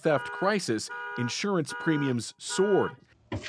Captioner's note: alarm